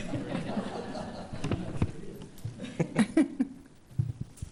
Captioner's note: attendees laughing